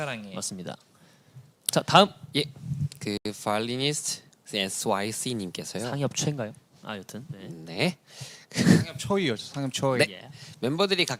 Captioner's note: with an accent